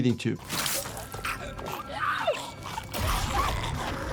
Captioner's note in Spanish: monstruo gorgoteando; Senua gritando